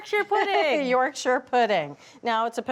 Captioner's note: laughs